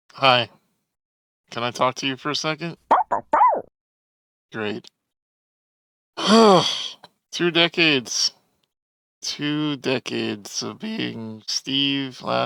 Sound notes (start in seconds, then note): 2.9 bark Bark Bark!; 6.2 sigh